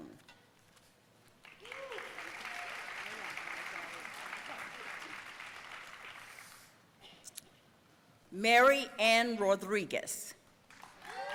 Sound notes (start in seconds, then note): 1.4 audience applauding